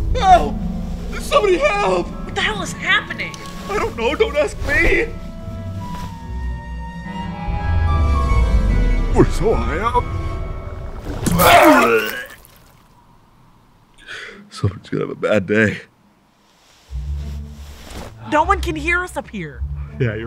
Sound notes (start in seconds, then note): 11.0 liquid burbling; 11.0 Benson retching; 19.5 pensive music